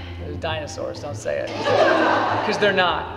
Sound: class laughs

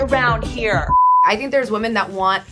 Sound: beep

